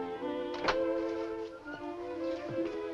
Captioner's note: door opens